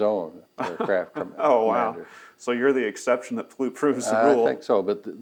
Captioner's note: laughs